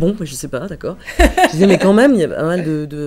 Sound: laughs

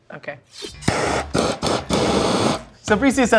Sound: flames hissing

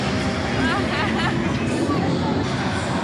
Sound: woman laughing

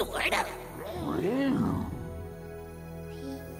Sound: soft roar

